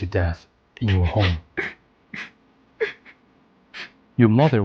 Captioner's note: Anthony sobbing